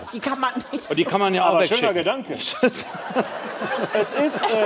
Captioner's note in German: Lachen